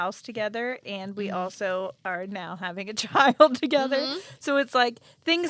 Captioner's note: laughs